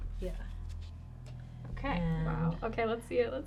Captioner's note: pat